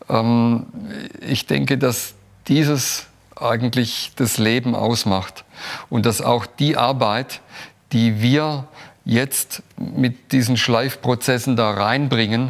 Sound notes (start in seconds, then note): none